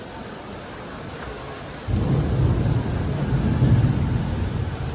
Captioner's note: thunder outside, lightning